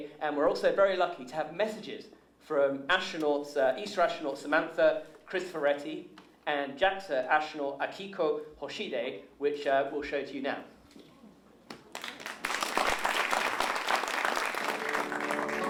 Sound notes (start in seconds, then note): 9.5 applause